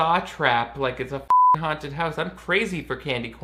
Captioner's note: beep